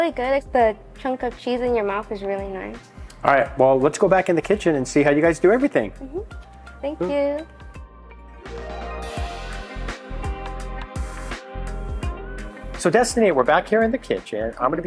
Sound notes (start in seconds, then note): 6.2 humming